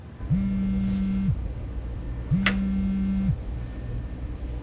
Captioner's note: phone vibrating